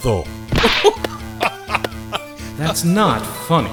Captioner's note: laughing